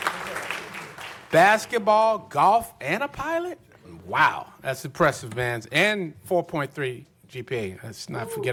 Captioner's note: applause